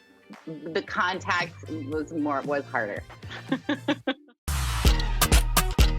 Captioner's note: laughs